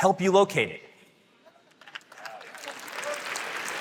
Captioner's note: applause